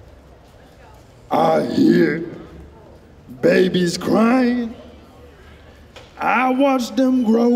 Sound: mimicking Louie Armstrong

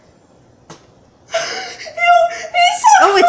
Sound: speaks gibberish

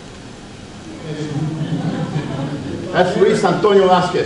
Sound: audience awws

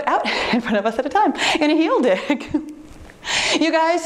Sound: chuckles

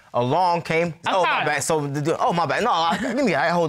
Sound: stutters

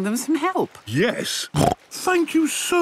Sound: snorts

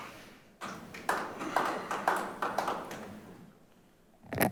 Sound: clapping

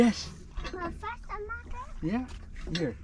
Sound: speaks in an indistinct language

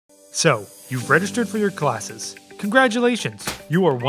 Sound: party popper popping

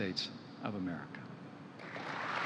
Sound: applause

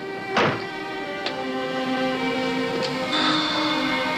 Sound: sighs

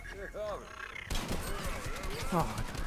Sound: gunfire

